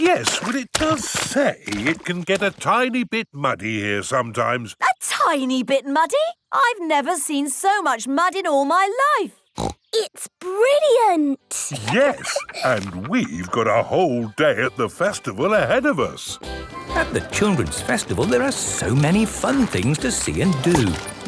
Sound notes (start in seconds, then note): 11.5 laughs; 16.4 festival buzz and music